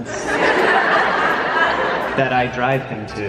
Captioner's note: audience laughter